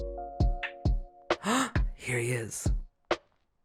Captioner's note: gasp